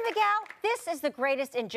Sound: cheers and applause

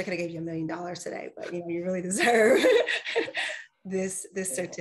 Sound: laughs

